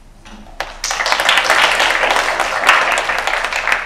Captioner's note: applause